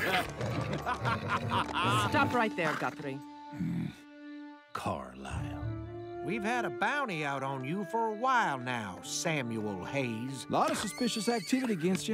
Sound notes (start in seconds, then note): 0.0 evil laughter; 10.6 horse whinnies